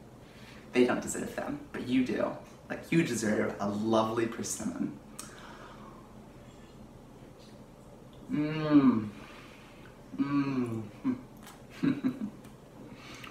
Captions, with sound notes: They don't deserve them, but you do, like you deserve a lovely persimmon~ Mmmmm (pleased eating noises)